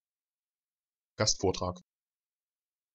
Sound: fast Pronunciation

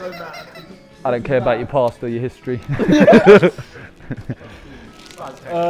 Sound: laughs

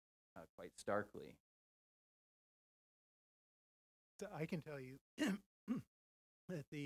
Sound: cough

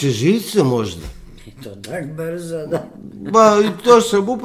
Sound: laughter

